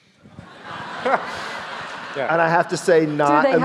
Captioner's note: audience laughing